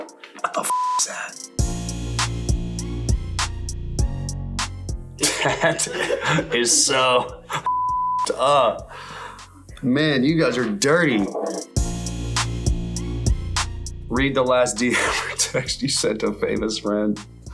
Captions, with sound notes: What the (beep) is that? (bright upbeat music) That is so (beep) up. Man, you guys are dirty. Read the last DM text you sent to a famous friend.